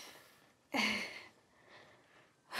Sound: sighing

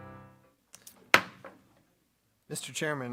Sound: gavel raps

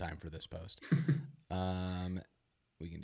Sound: laughs

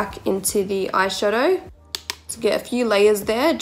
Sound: tapping

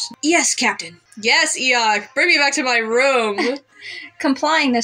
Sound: chuckle

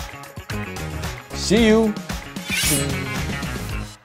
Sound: shing

